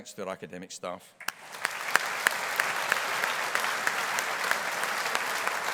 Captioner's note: audience applauding